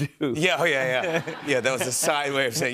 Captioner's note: laughter